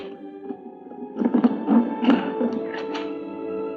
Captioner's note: creaking